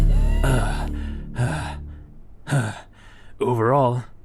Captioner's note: grunting, heaving